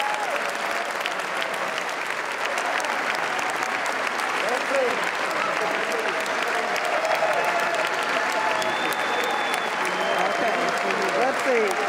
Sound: applause

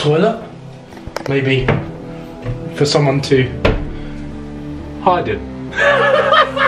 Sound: laughing

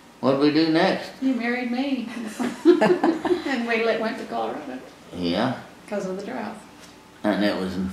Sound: laughter

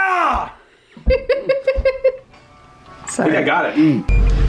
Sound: laughing

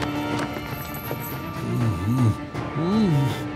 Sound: groaning

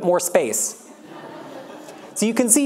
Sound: audience laughs

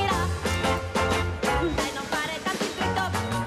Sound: timer beeping

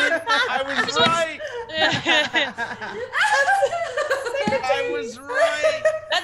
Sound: laugh

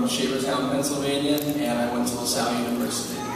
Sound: background noises and talking

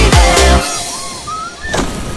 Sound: water splashing; screaming

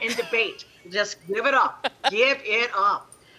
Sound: laughing; chuckling

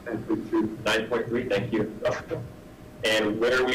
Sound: laughs

